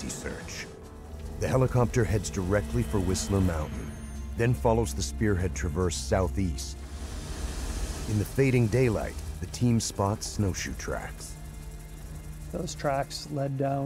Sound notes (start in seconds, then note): 9.1 voiceover